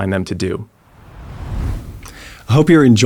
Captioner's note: screen whooshing